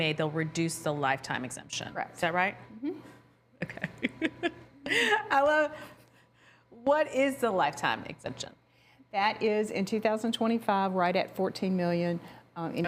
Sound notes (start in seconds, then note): 3.6 laughs